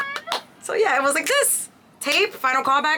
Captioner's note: snaps fingers